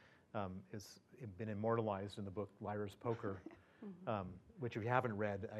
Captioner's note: laugh